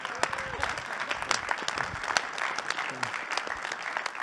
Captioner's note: applause